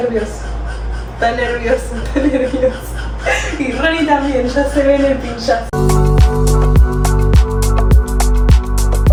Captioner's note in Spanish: risas